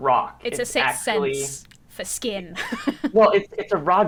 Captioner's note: laughs